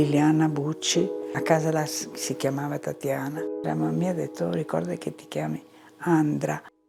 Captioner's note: continues speaking in foreign language